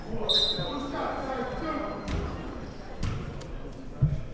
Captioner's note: whistle blows